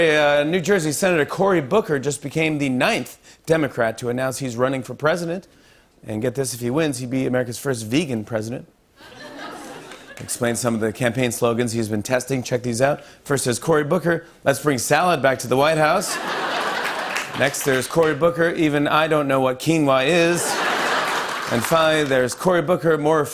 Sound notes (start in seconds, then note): 16.0 laughter